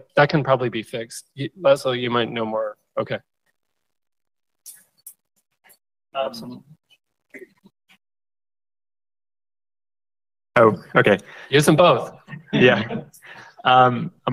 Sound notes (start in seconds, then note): 12.3 laughter